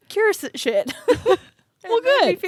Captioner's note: both laugh